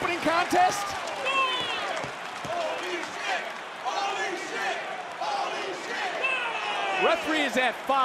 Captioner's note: crowd chants